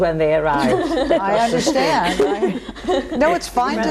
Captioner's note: laughing